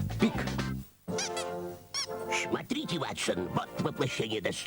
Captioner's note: squeak